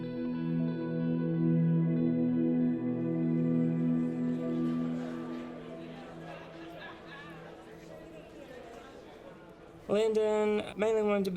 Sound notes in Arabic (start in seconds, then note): 1.3 الناس يتحادثون